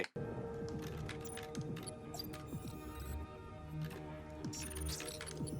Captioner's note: keyboard clacking